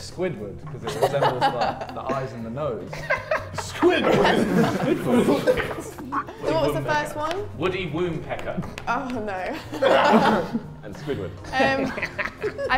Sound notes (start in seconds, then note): 2.9 Tobi laughs; 11.4 laughs